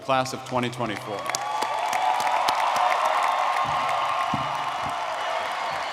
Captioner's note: audience cheering and clapping